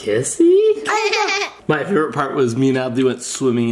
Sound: laughs

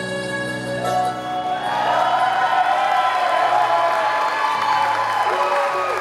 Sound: wedding attendees cheering

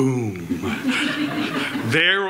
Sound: audience laughs

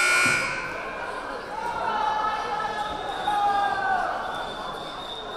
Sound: buzzer buzzing; crowd chattering

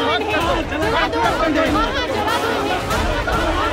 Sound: crowd chanting

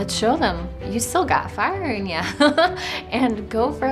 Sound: laughing

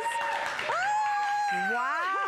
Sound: applause

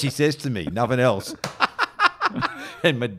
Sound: laughing

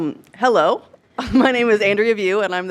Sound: small laugh

